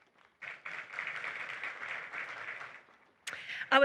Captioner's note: applause